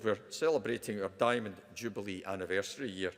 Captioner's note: none